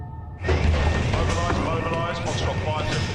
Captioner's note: man over P.A